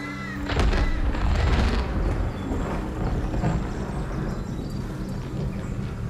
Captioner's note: thunder clap